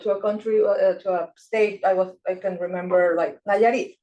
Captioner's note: speaking Spanish